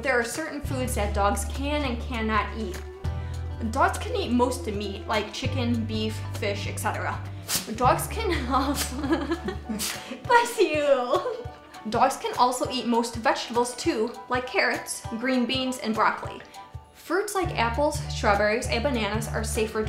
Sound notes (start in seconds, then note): 9.7 sneezes